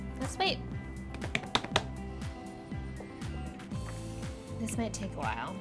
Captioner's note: smacking counter